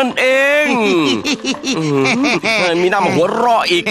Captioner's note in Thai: หัวเราะ